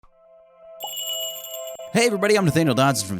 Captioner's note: magical jingle